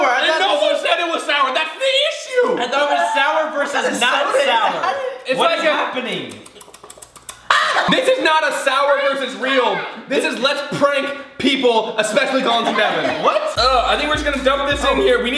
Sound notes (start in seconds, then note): 6.1 sucking teeth; 12.3 laughter